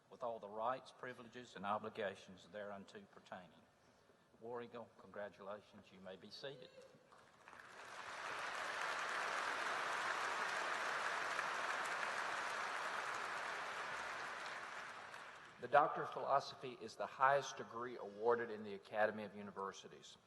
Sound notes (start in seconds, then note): 7.1 applause